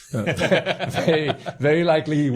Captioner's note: laughing